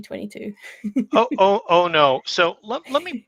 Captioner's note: laughs